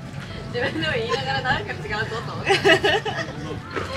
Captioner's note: laughs